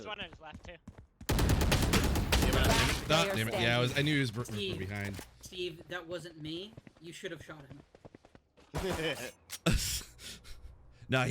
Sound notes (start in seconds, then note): 1.3 heavy gunfire; 9.6 both laugh